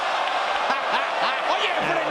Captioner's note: laugh